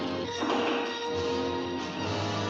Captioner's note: suspenseful music; door opens noisily; suspenseful music